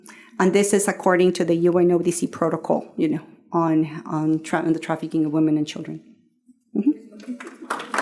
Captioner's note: applause